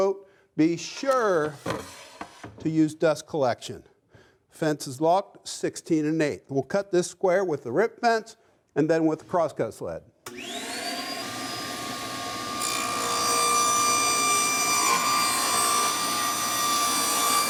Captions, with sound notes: be sure to use dust collection. Fence is locked, 16 and 8. We'll cut this square with the rip fence and then with the crosscut sled. (electric saw whirs) (wood whines in saw)